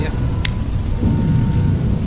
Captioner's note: flashlight click